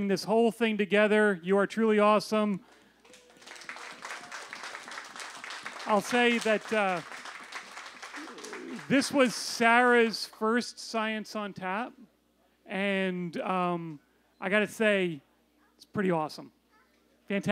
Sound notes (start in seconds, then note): 2.6 applause